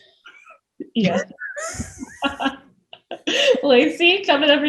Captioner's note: all laugh